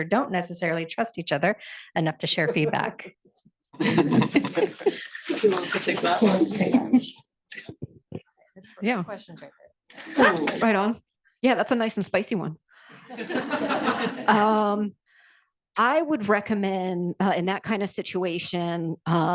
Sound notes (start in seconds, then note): 3.8 participants laugh; 13.0 participants laugh